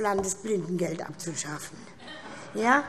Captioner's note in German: Heiterkeit SPD